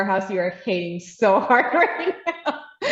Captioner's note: laughs